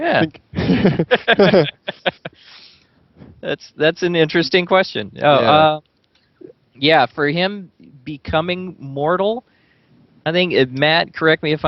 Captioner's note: both laugh